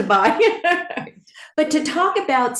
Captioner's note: laughs